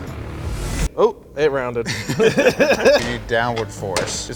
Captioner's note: laughing